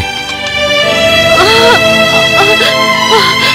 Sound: groaning in labour pain

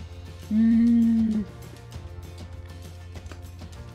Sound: moans

